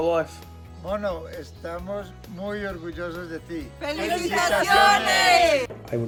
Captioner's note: speaking in foreign language